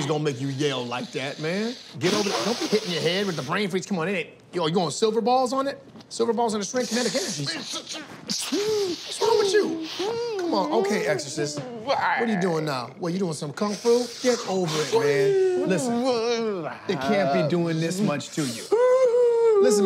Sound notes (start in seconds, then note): 0.4 exhales; 6.8 inhales, vocalizes; 11.7 vocalizes; 13.6 continues vocalizing